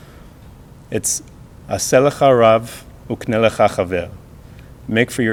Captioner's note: speaking hebrew